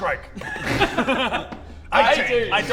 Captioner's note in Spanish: Risas